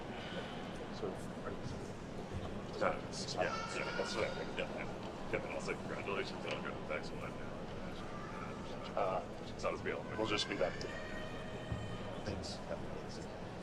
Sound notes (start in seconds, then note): 5.9 speaks faintly